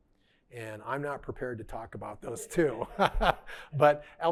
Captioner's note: laughing